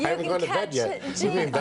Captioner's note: laughter